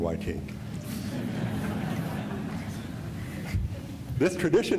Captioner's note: laughter